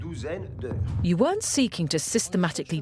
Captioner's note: voiceover